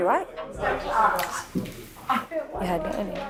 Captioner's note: whispering